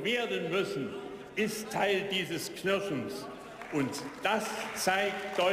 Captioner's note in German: Beifall